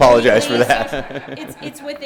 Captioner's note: laughing